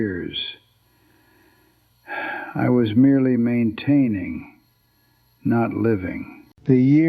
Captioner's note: exhales